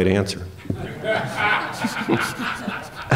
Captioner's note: laughter